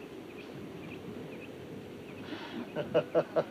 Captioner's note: Abby pants; laughs